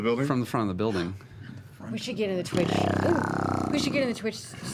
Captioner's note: snarling